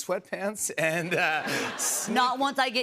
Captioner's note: laughter